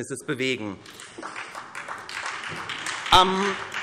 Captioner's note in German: Beifall SPD